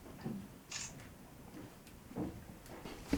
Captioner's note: camera shutter